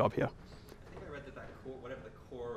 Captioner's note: voiceover